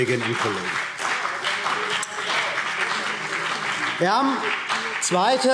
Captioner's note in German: Beifall CDU und BÜNDNIS 90/DIE GRÜNEN